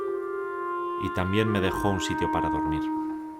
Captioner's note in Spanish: Voz en off